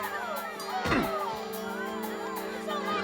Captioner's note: grunts